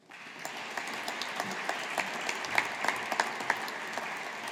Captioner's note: audience applauding